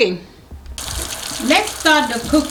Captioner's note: water running